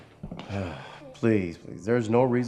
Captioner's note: sighs